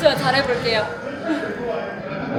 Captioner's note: chuckles